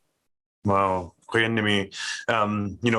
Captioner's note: speaking in foreign language